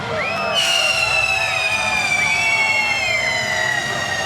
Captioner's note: flare whistling